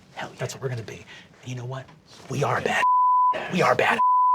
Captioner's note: beeping